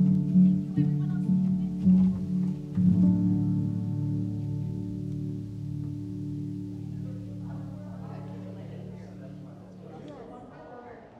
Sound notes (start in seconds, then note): 3.9 people talking in distance